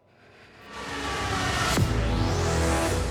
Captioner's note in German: bedrohliche industrielle Klänge